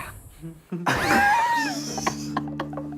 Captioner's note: laughing